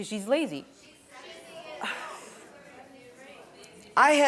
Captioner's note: audience reacting